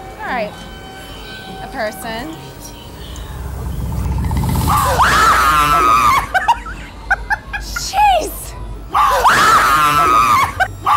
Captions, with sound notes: Alright, a person. (screaming) (laughing) Geeze.